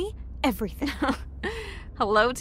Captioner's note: laughs